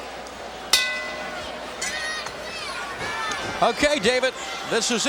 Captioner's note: bell rings